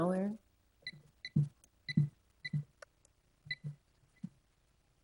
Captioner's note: electronic beeping